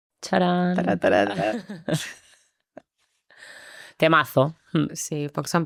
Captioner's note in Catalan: rialles